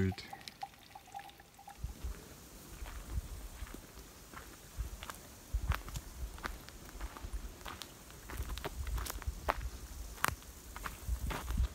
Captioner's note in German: Schritte und Heuschrecken sind hörbar